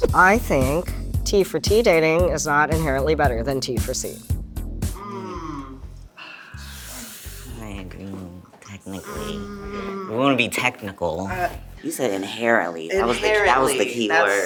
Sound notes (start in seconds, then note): 4.9 group moaning